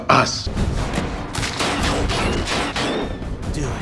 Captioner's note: bullets on metal